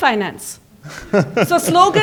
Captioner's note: laughter